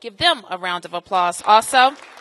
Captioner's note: applause